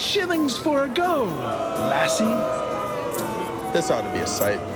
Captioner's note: crowd jeers